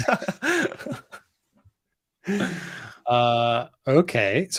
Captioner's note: laughs